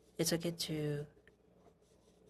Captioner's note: speaking French